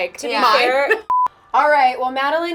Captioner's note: beep